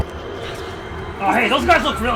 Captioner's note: ring whispers